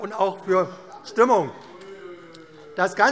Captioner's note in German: Zurufe CDU: Ah!